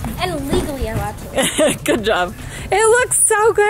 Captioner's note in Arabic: يضحك